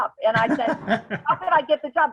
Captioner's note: laughs